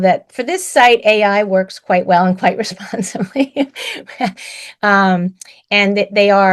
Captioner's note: laughs